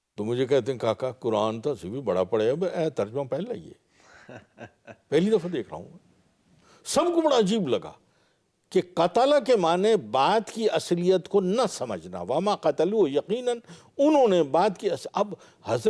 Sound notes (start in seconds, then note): 13.4 Arabic